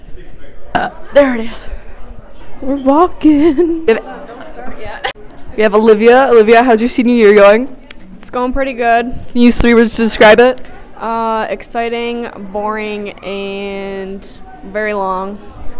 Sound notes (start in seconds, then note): 0.7 burp